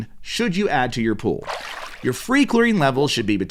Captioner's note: water splashing